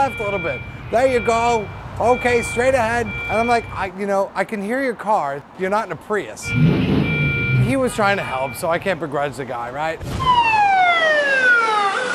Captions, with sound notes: "There you go. Okay, straight ahead." And I'm like, - you know, I can hear your car. You're not in a Prius. [car revvs] He was trying to help, so I can't begrudge the guy, right? [siren]